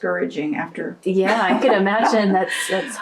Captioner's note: laughs